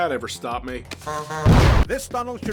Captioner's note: honk honk